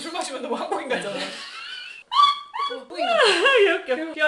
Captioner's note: laughing